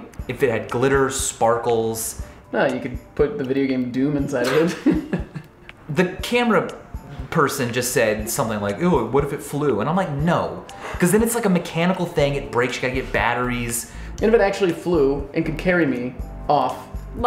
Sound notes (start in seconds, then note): 4.4 laughter